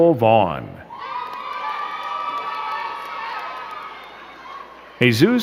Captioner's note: crowd cheering and clapping